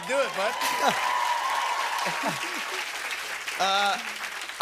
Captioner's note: cheers and applause